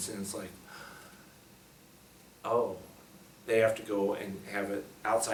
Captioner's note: gasps